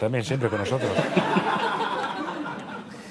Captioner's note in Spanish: Risas